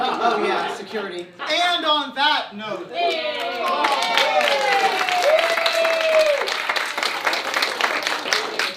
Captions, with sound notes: - Oh yeah, security. And on that note! (cheering)